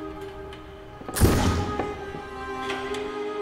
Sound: muffled gunshot

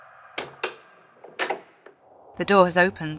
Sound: sound of a door

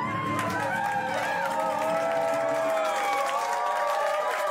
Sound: cheers and applause

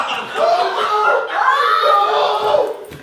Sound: audience laughing

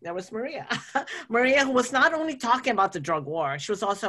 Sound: laughs

